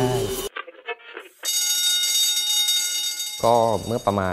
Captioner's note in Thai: เสียงกริ่งเตือนไฟไหม้